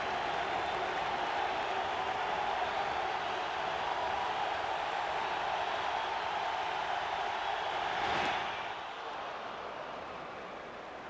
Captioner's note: cheering and Applause; applause